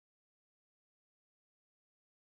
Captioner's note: none